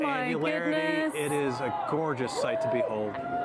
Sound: cheers and Applause

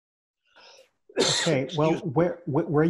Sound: coughs

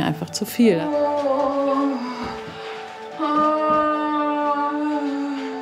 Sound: loud groaning

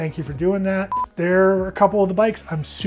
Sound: timer beeping

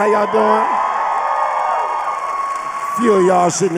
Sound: women cheering

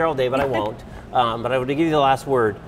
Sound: chuckles

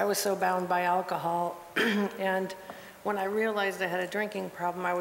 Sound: cough

